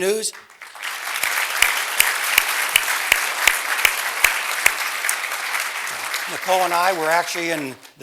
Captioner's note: applause